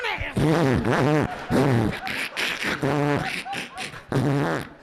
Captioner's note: imitating horn sounds